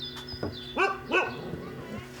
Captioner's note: distant barking